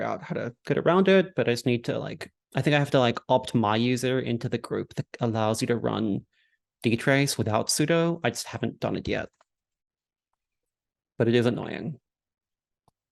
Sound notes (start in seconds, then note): none